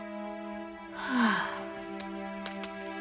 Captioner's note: sighing